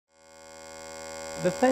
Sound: machine buzzing

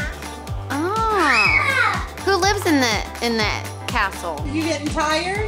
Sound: voiceover

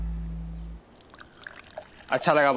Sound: pouring tea

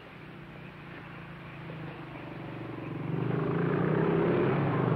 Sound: motorcycle approaching

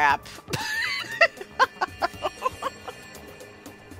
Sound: laughter

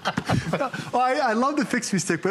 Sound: laughter

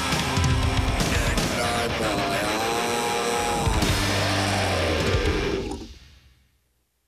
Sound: electronic voice

